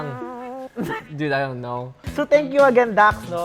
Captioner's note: laughs